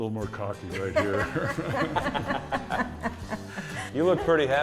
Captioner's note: group laughs